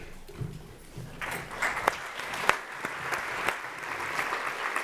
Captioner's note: applause